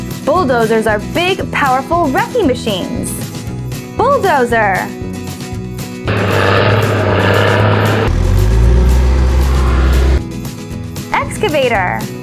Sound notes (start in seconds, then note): 6.0 bulldozer Engine Sound; 8.2 excavator Engine Sound